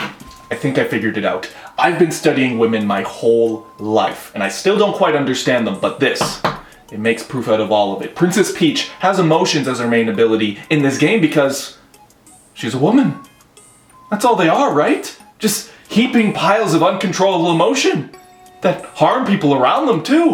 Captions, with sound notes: I think I figured it out. I've been studying women my whole life, and I still don't quite understand them but this (tap tap), it makes proof out of all of it, Princess Peach has emotions as her main ability in this game because She's a woman. That's all they are right? Just heaping piles of uncontrollable emotion that harm people around them too-